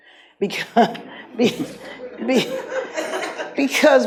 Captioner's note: laughs; audience laughs